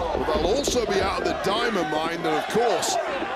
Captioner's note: crowd chants "let's go creed"